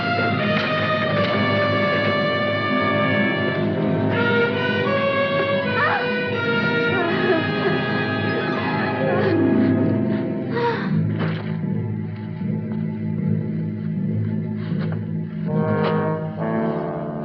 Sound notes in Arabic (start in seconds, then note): 4.8 يتنفس بصعوبة